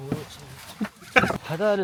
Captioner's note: chuckles